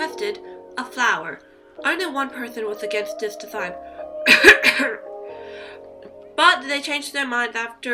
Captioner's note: cough